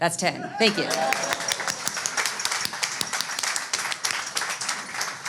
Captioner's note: audience cheers